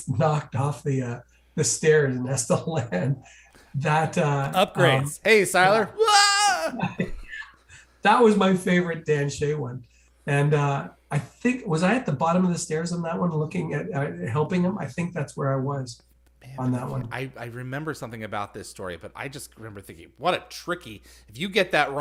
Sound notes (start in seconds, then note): 5.9 Wilhelm scream